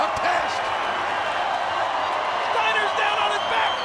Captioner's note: audience cheers